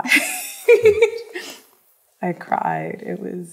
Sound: laughs

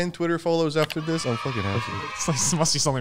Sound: children cheering

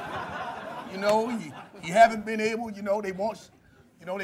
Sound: laughter

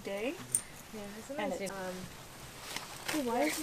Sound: chatter

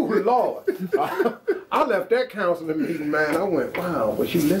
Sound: laughs

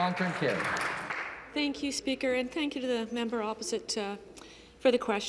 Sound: some Applause

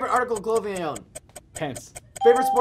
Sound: ding

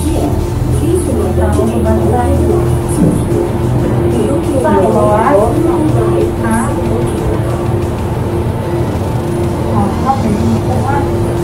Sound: indistinct chatting

